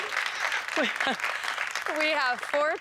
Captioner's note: laughs